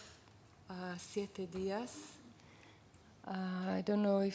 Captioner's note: non-english speech